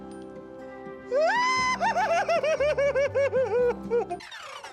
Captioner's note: squealing